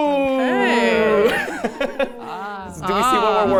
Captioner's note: laughs